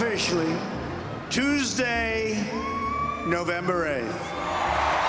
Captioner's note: crowd cheering